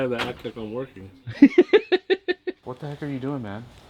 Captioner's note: laughing